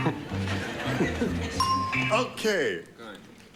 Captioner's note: laughter